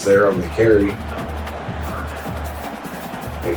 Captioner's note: crowd Noises